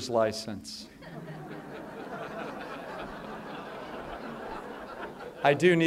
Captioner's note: laughter